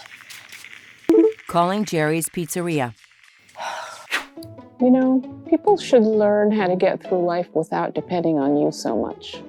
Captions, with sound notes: [vibrating alert] Calling Jerry's Pizzeria Ugh You know People should learn how to get through life without depending on you so much